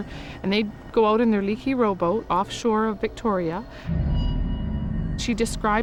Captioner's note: speaks in a foreign language